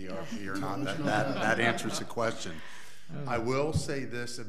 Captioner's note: laughing